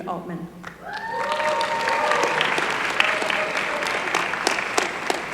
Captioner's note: applause